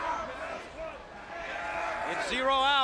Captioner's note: crowd chatter